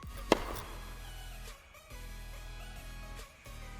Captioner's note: ball whacks